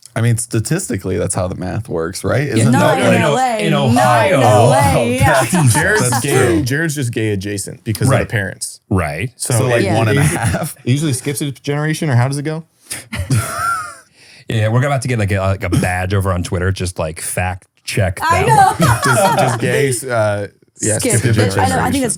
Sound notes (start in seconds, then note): 13.0 laughs; 18.2 laughs